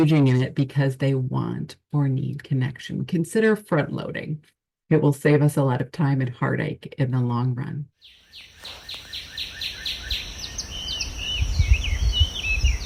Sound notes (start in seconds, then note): 8.0 birds chirping